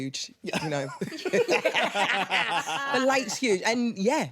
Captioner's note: Yerin and Luke laughing